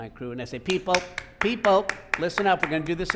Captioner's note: clapping